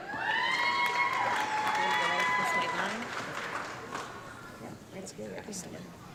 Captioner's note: audience clapping and cheering